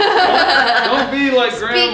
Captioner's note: laughing